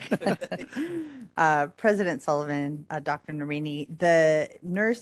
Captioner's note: laughing